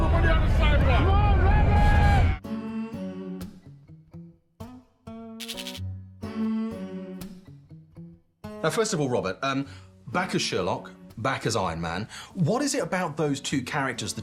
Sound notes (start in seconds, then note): 2.6 upbeat music playing; 5.4 static buzzing